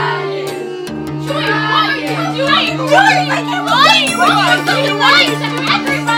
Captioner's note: yelling